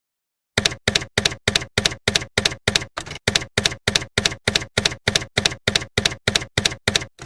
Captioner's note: typewriter keys clacking